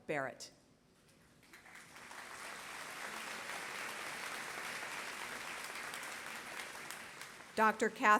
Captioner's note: applause